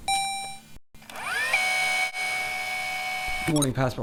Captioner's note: robotic ding; tape rewinding